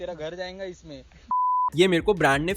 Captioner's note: beep